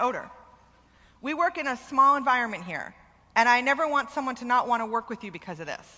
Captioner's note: none